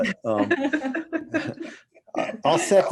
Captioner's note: all laughing